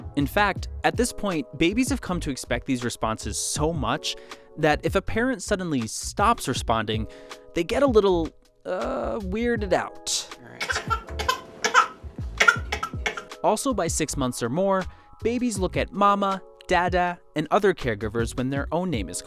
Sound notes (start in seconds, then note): 10.5 cries in distress